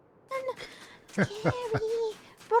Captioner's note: laughter